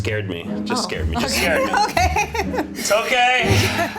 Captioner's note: laughs